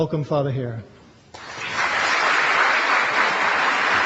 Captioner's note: applause